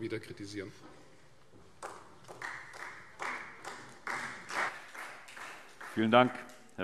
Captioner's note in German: Beifall Freie Demokraten